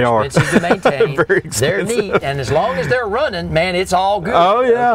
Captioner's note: laughter